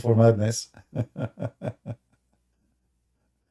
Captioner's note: Ketawa